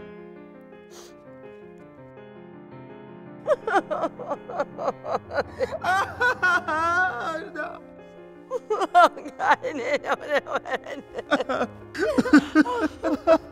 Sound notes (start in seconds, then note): 0.1 mid-tempo piano music; 3.4 sobbing